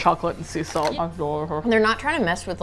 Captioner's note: mouth full